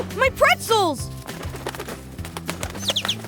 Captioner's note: flapping; tweeting